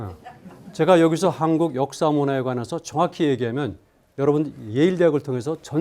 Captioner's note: speaking in Korean